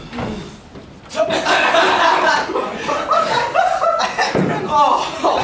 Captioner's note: mocking laughter at Christian’s entrance